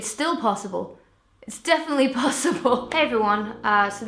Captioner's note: chuckles